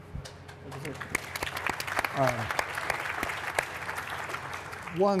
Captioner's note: applause